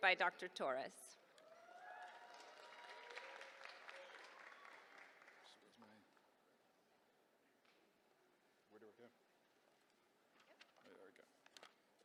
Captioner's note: applause